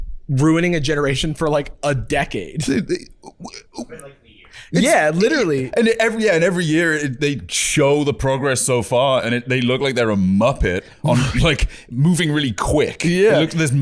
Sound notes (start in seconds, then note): 2.8 stammering